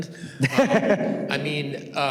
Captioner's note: student laughs